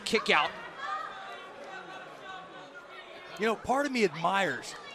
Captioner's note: crowd chatter